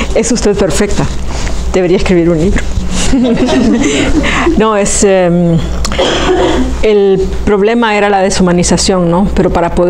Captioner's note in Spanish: se ríe